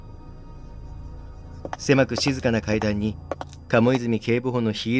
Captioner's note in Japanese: 足音：コツコツコツ